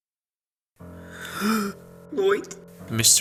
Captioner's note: gasps